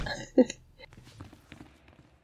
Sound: laughs

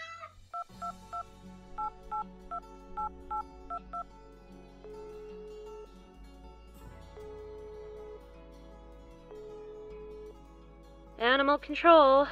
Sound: phone dialling; ring tone

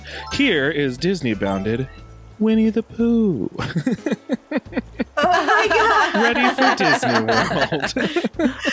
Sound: laughter

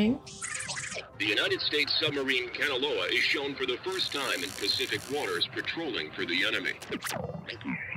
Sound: radio

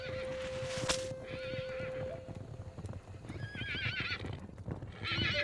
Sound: horses galloping and neighing

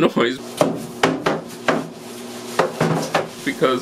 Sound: thumping sound

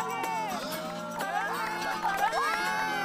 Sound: haha

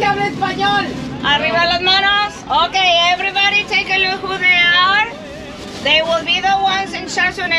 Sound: laughing

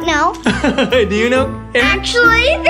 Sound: laughs

